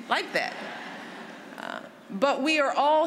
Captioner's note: laughter